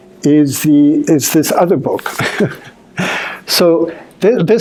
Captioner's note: chuckling